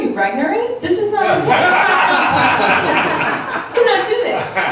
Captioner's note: laughs